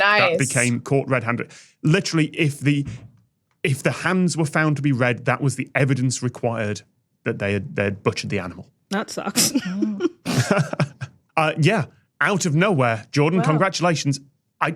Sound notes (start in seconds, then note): 10.2 snickers; 10.2 chuckles